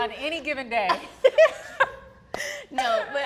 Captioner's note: laughs